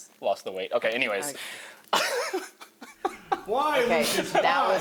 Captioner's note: laughs